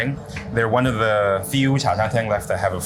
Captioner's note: speaks in foreign language